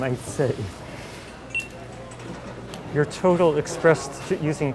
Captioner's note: beeping